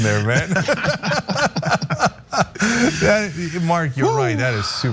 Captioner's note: laugh